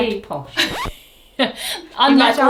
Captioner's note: record scratches